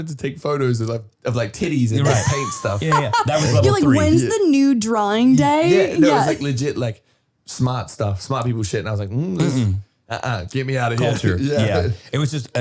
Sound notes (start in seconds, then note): 2.0 laughing